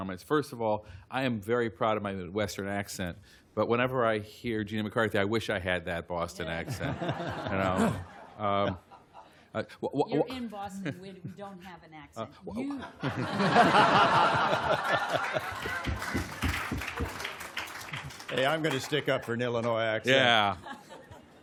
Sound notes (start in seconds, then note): 12.5 laughter